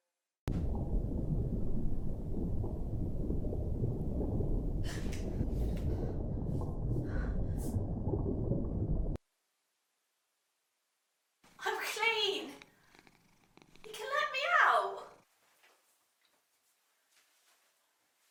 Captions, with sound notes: (heart beating) I'm clean, you can let me out.